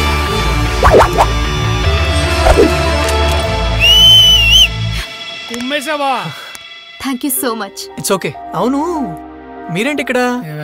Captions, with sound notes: (Whistles) That was awesome, man! Thank you so much. It's okay. What are you doing here?